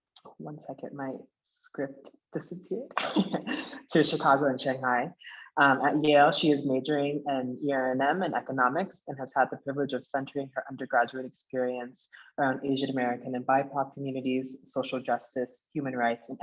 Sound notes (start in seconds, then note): 3.0 laughing